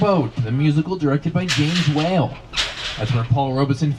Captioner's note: metal clangs